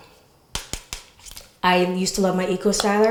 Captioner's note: tapping bottle